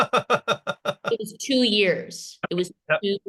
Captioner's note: laughter